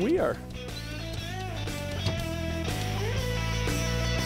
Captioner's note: whining